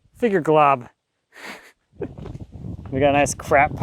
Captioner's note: laughing